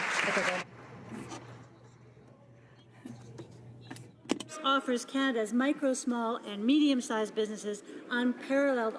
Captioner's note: some Applause